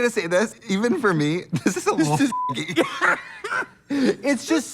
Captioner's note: beep